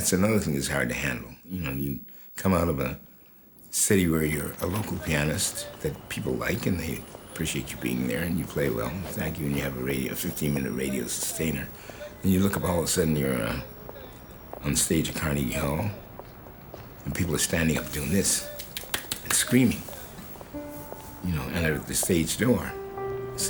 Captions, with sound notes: You come out of a city where you're a local pianist that people like, and they appreciate you being there and you play well and thank you and you have a 15-minute radio sustainer, and you look up, all of a sudden, you're on stage at Carnegie Hall, and people are standing up doing this... (clapping hands) ...and screaming. You know, and out of the stage door, it's a different life.